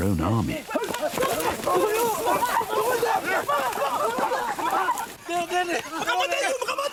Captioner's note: men shouting in a foreign language